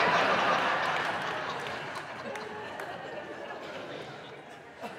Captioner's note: audience laughing